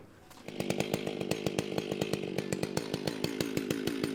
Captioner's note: tool buzzing